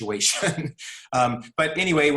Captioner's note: laughing